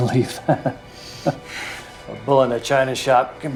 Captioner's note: laughing